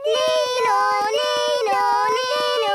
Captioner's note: imitating siren